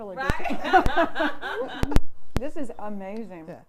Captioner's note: laughs